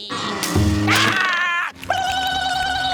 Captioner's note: screaming